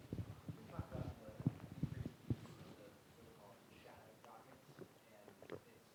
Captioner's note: student speaking faintly